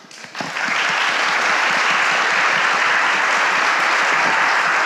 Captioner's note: audience applauding